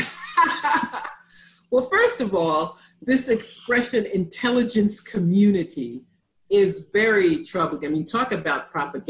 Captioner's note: laughter